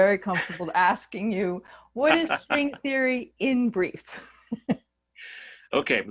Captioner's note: laughing